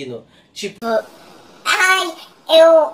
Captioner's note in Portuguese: com voz modificada imitando outra pessoa